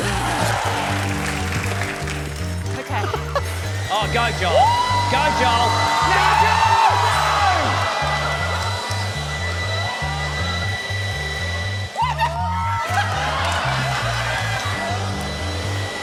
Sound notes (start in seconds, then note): 0.1 applause; 12.0 laughter